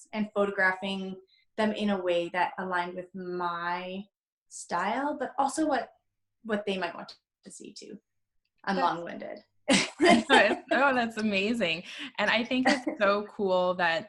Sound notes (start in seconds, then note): 10.0 laughs